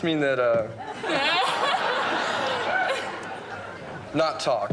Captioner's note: laughter